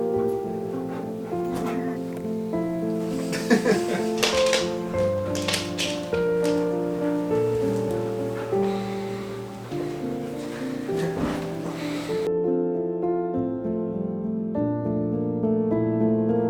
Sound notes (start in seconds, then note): 3.1 laughing